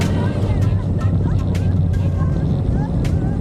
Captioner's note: laughing